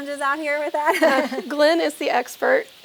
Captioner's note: women chuckling